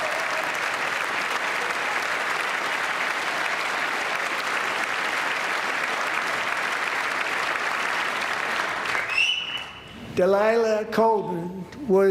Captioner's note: applause